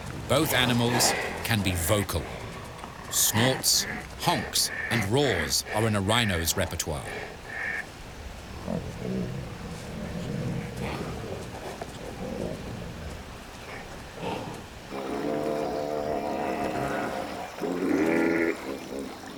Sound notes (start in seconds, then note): 7.8 rhinos grunting